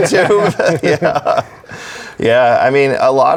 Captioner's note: chuckles